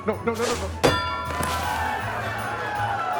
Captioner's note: target dinging; crowd cheering; crowd applauding